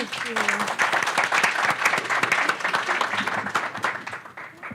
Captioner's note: applause